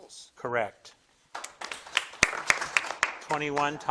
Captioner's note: crowd claps